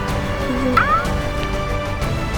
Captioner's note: tongue boinking; dramatic music